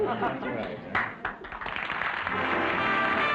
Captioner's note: applause; music & applause